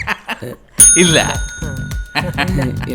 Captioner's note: rings office bell